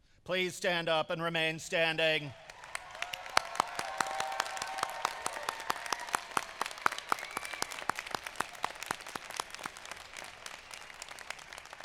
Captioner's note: applause